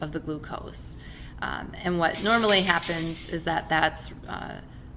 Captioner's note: keys falling